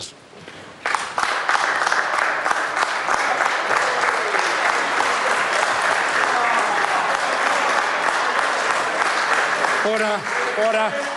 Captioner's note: members applaud